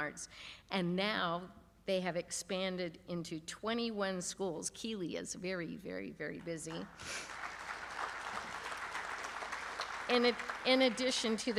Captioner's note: applause